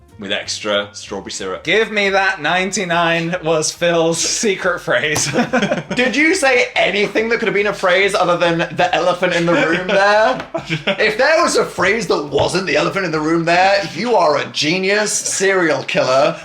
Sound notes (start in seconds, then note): 5.2 laughs; 9.2 laughing